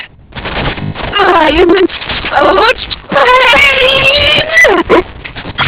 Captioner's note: voice glitching, stuttering